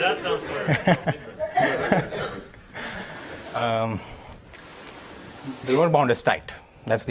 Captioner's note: laugh